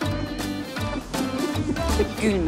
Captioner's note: laughs